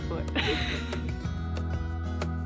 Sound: laughs; cheerful acoustic music

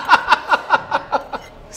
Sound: laughing

